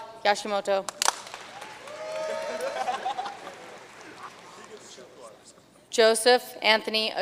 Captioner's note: audience cheering and applauding